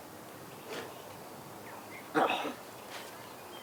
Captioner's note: birds chirping